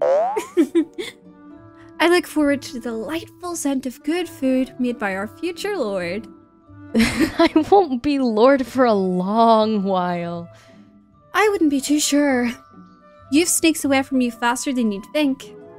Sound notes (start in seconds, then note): 0.4 giggle; 7.0 laugh